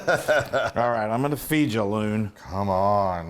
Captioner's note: laugh